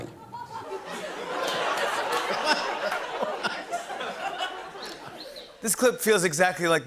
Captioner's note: laughter